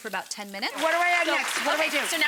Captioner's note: audience applauding